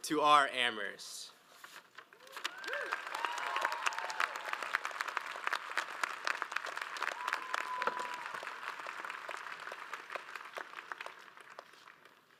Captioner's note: audience claps